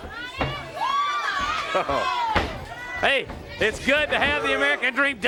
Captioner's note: crowd chatter